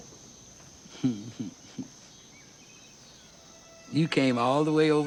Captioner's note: Lilly chuckles